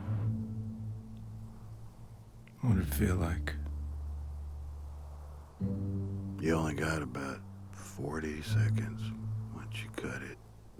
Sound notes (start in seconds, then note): 1.3 wind howling